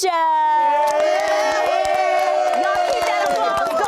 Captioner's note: applause